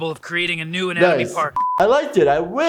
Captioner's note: beeping